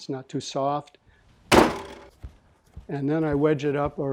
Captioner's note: banging